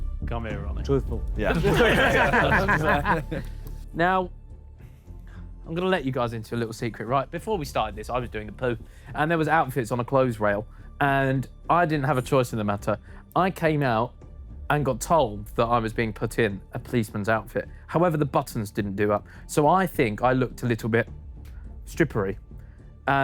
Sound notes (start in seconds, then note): 1.4 Sidemen laugh